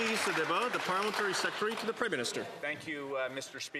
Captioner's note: some Applause